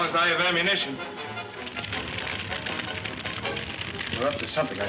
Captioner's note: flames crackling